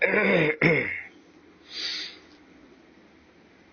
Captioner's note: he clears his throat